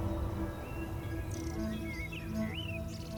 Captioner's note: birds chirping